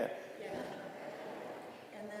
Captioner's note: chuckling; audience laughing